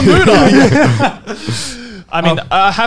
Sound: laughing loudly

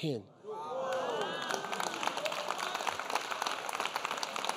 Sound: audience applauding

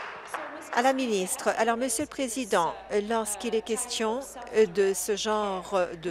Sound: applause

